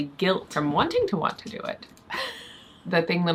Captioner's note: chuckles